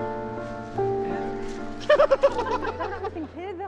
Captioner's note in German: lacht